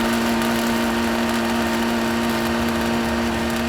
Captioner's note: engine grinding